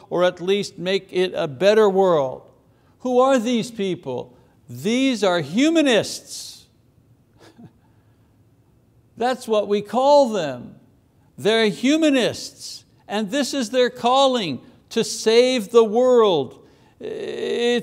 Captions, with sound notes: or at least make it a better world. Who are these people? These are humanists. (chuckles) That's what we call them. They're humanists and this is their calling, to save the world.